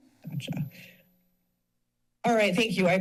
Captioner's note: pause